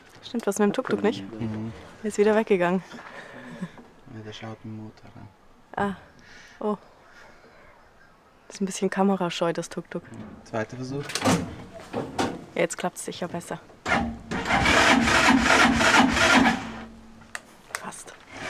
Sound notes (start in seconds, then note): 13.8 engine sputtering